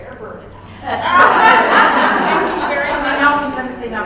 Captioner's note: laugh